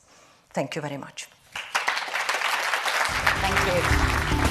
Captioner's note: applause